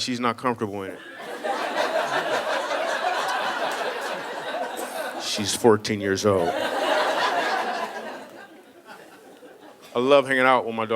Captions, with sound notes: I'm like, "She's not comfortable in it." (audience laughing) She's 14-years-old. I love hanging out with my daughter.